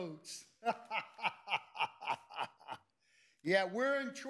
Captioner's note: laughs sarcastically